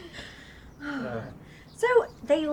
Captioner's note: people laughing; woman sighing